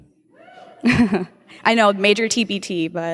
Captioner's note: some cheering